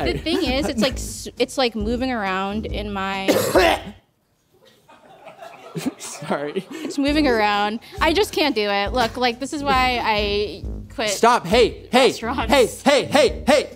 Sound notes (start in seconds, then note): 3.2 cough; 4.6 laughing